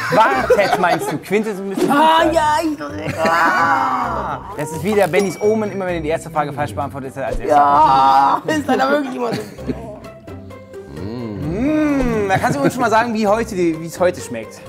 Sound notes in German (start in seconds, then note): 3.1 Er stöhnt